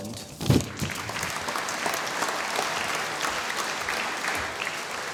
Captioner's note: applause